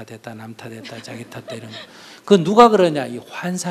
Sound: inquirer laughs

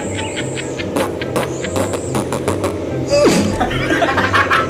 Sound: laughs while farting

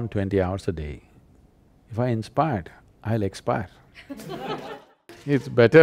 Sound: laughter

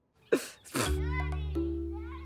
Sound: spluttering

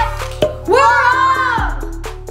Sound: claps; upbeat music

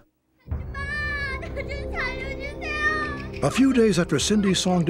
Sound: shouting in korean

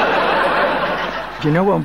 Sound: audience laughing

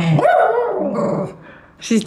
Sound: roar; grumbling

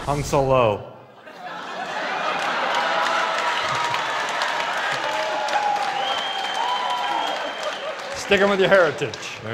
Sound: laughters

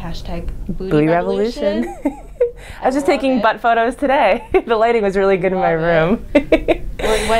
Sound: laughs

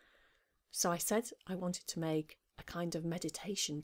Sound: recorded Voice

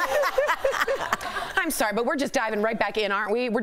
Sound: laughter

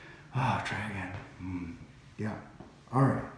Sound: sighs

